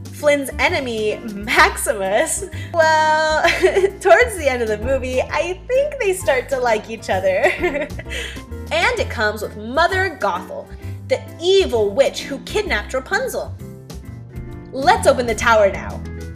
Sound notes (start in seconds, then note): 3.4 giggle; 7.4 giggle